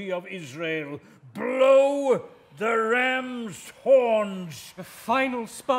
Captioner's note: voices whisper - "leah"